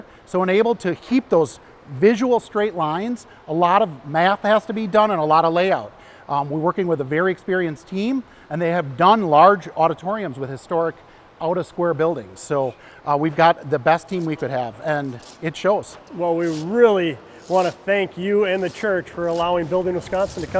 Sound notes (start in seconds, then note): 15.5 trowel scrapes